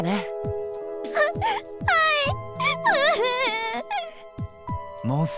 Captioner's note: sob